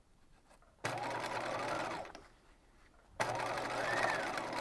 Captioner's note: machine whirring